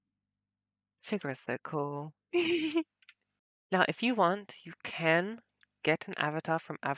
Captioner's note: laughs